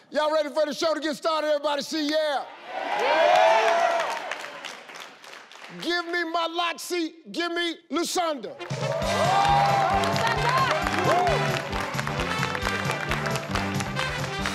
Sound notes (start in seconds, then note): 8.5 upbeat music; 8.6 audience cheering